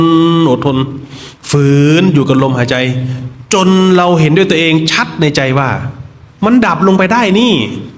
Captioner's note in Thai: เสียงสูดหายใจ